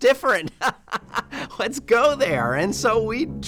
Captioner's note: laughter